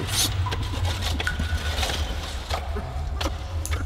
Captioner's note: echoing sounds of digging and water dripping